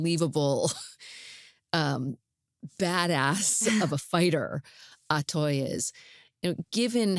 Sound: chuckles

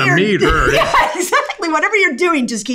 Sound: laughs

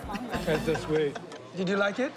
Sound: laughing

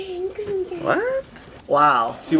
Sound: mummering

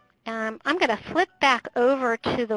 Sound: voiceover

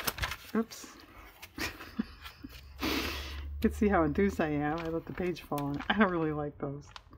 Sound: laughs

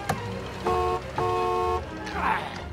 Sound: horn honking

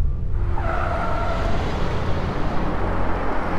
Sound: tyre screeches

